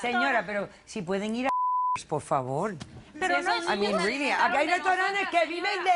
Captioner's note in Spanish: Bip